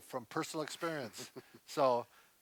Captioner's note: chuckles